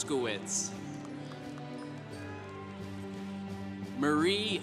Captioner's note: congregation applauding